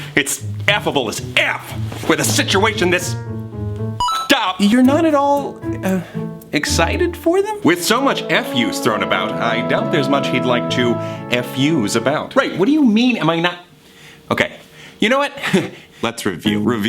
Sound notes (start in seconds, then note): 4.0 beep